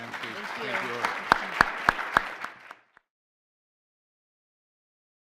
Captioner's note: attendees applauding